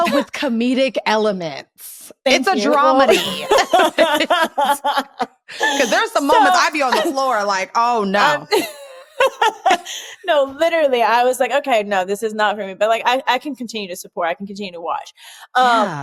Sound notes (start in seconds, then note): 3.1 laughter; 8.3 laughs